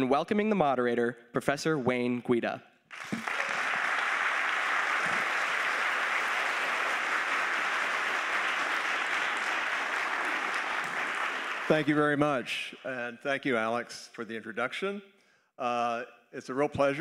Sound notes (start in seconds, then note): 2.9 applause